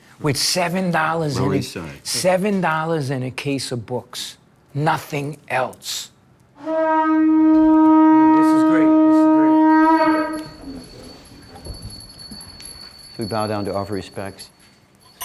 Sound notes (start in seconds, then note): 6.6 horn blows